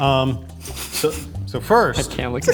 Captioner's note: snickers